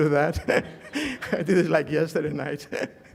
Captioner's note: laughter